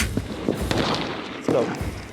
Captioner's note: gun firing; patriotic music; gun firing